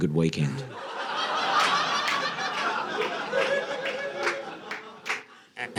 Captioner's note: audience laughing